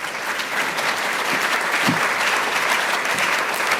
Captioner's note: applause